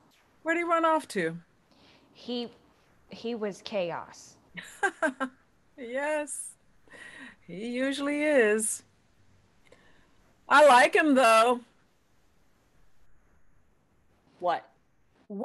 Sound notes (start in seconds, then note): 4.6 laughs